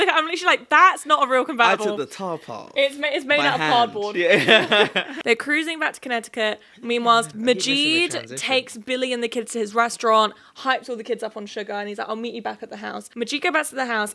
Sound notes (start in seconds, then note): 4.2 chuckling